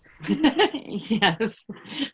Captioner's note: laughs